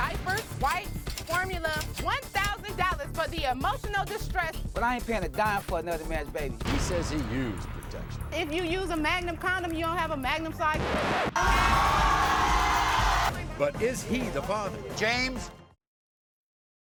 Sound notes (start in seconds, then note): 10.6 scratching record; 11.3 cheers and applause